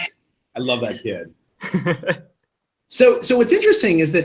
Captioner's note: laughs